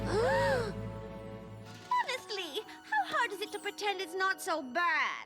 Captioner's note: gasp